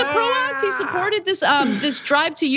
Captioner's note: laugh